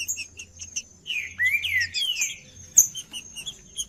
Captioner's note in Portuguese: trinca ferro cantando